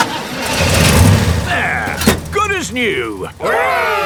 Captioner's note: engine starts